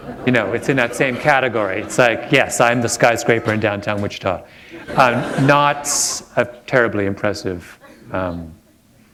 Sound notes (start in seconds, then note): 4.6 chuckle